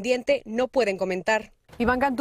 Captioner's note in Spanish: habla en ingés